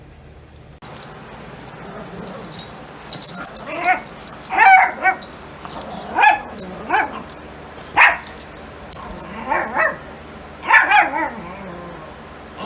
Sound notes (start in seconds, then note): 0.9 Ella growls and barks